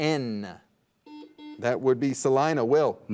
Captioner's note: buzzer dings